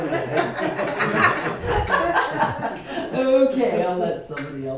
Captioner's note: laughter